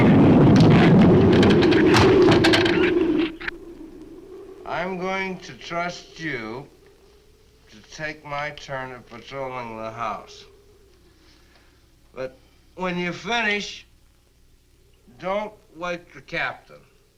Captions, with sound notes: (branch cracks) (branch thuds) I'm going to trust you to take my turn at patrolling the house. But when you finish, don't wake the captain.